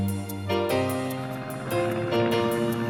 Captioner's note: plane engine whirring